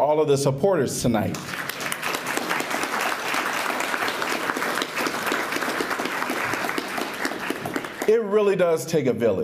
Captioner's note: applause